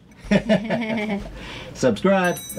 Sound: laughter

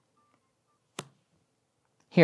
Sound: card slaps on table

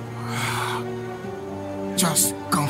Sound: sighs

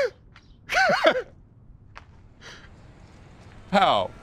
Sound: laughs

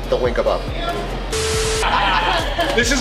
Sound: offline beep; static; laughing

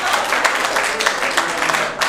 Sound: applause

